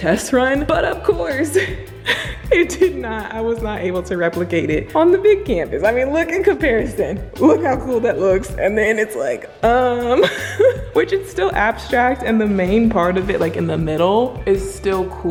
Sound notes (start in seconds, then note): 9.7 laughing